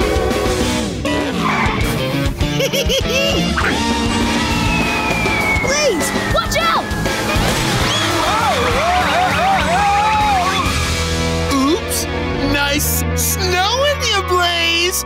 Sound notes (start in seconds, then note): 2.5 giggling